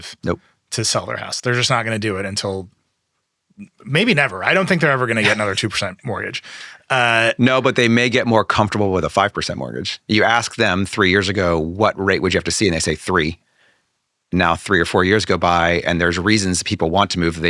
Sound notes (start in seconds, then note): 5.0 laughing